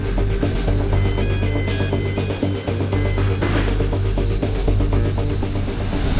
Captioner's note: loading equipment beeping